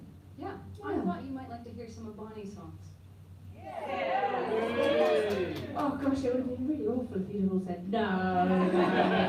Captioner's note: audience cheers